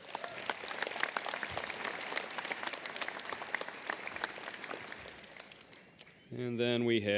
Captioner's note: applause